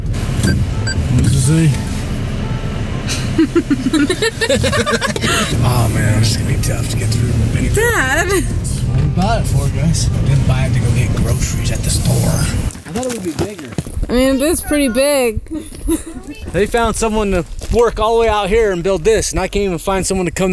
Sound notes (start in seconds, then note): 0.2 4Runner beeping; 3.1 group laughing; 7.7 speaker 2 groaning